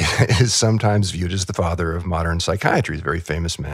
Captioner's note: laughs